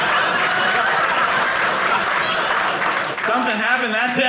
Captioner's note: audience laughing; audience cheering